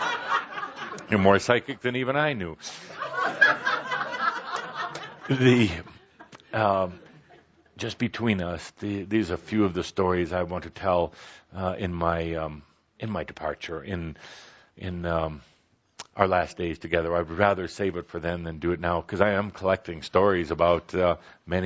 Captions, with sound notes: (laughter) You’re more psychic than even I knew. (more laughter) Just between us, there’s a few of the stories I want to tell in my departure, in our last days together. I would rather save it for then than do it now, because I am collecting stories about